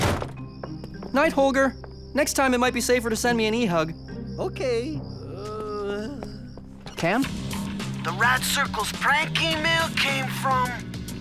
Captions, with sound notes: NIGHT, HOLGER. NEXT TIME, IT MIGHT BE SAFER TO SEND ME AN E-HUG. OKAY. (GROANS) CAM? THE RADCIRCLES PRANK EMAIL CAME FROM...